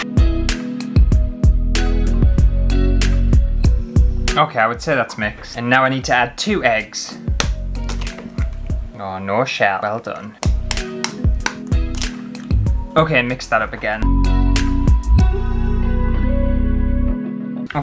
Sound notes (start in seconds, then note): 10.1 egg Cracking